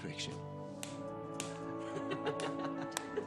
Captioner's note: laughing